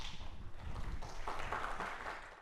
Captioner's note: applause